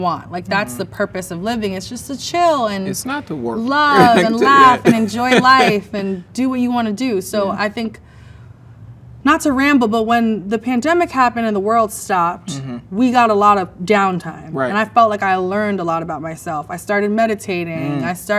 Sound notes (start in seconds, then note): 3.9 man laughs